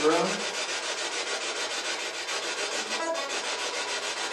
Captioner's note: scratching